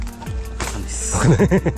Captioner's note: laughs